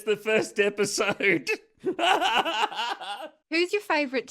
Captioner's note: laughter